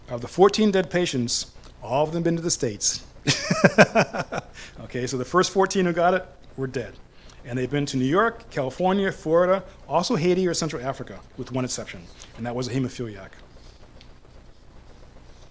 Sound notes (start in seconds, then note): 3.2 laughs